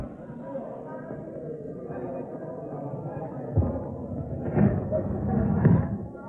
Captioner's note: crowd noise